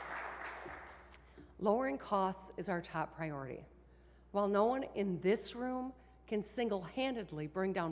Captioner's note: applause